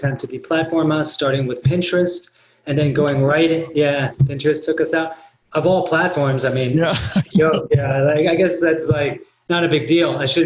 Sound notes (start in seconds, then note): 6.8 laughs